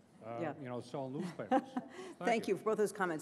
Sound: laughs

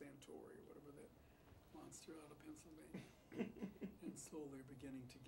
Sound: Bunny laughs

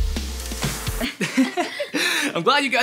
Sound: laughing

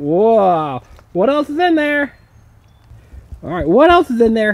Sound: voiceover

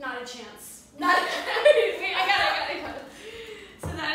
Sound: laughter

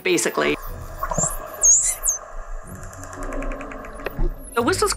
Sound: dolphin whistling

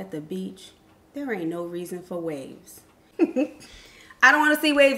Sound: chuckles

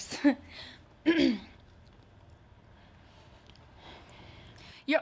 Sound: clears throat

